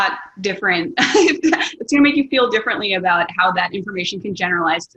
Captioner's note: laughs